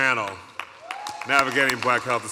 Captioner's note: audience cheering